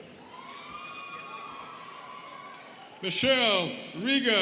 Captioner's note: students cheering